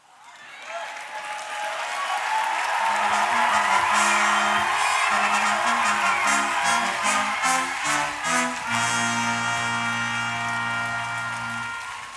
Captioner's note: applause